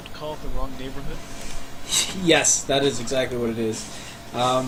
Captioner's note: laughing